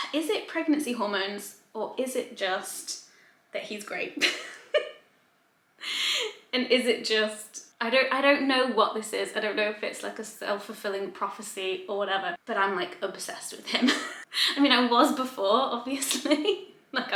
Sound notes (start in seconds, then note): 4.2 giggles quietly